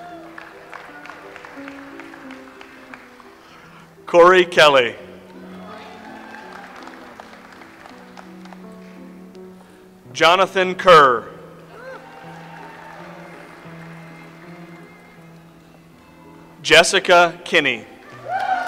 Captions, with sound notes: (audience applauds) Cory Kelly. (audience applauds) Jonathan Kerr. (audience applauds) Jessica Kinney.